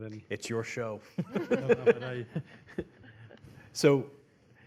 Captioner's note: laughs